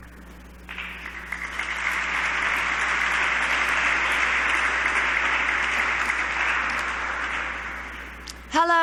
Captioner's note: applause